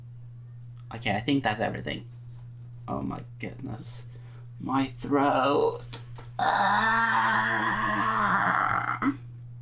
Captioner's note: hoarse voice; pterodactyl screach